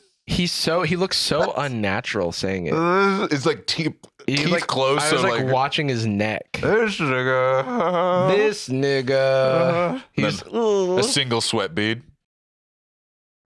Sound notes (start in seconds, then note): 6.9 stiffly, nervously